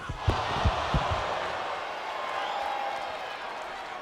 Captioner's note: crowd gasps